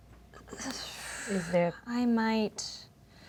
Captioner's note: Tariel exhales heavily